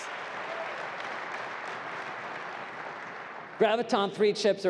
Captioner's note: applause